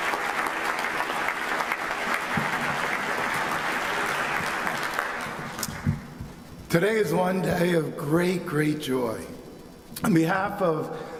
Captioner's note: applause